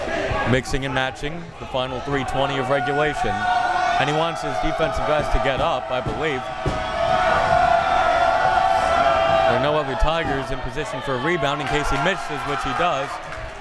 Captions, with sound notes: Mixing and matching the final 3:20 of regulation, and he wants his defense the best to get up, I believe. (crowd members shouting) There are no other Tigers in position for a rebound in case he misses, which he does.